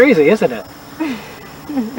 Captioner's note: laughs